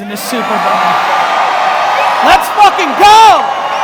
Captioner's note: audience cheers wildly